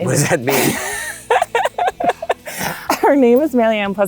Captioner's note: chuckle